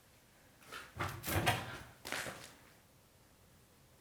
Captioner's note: floor creaking